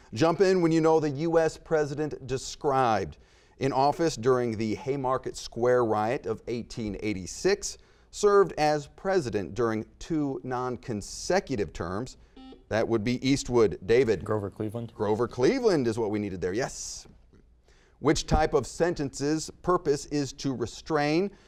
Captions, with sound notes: Jump in when you know the U.S. President described. In office during the Haymarket Square Riot of 1886, served as president during two nonconsecutive terms. (buzzer beeping) That would be Eastwood. David. - Grover Cleveland. - Grover Cleveland is what we needed there, yes. Which type of sentence's purpose is to restrain,